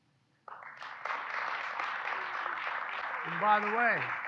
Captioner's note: applause